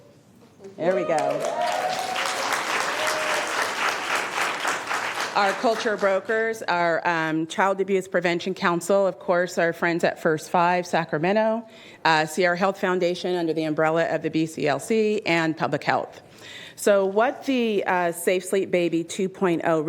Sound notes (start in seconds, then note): 4.3 cheers and applause